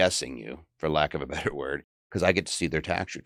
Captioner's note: chuckles